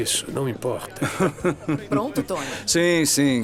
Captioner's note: laughing